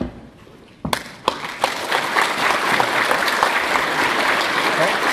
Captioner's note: applause